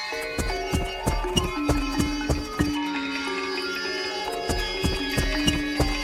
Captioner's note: sofa creaking; footsteps plodding; pensive music continues